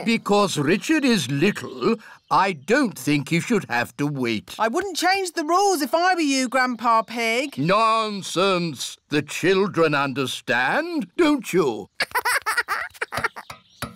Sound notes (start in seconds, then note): 12.0 laughs